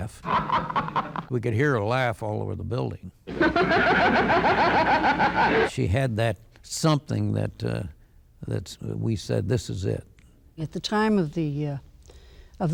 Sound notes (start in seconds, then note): 0.2 laughing; 3.3 laughing